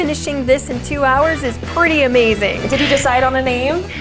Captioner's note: laughs loudly